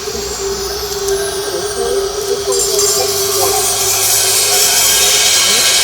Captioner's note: hissing